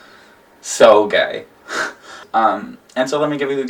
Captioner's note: laughs